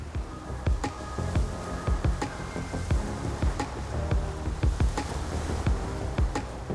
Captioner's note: upbeat music; water rustling